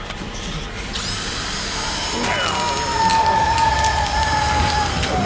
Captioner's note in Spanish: zumbido del taladro